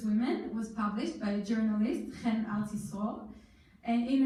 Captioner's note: in foreign language